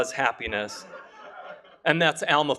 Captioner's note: laughter